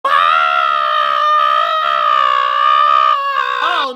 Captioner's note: screaming